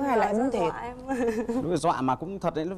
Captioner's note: laughing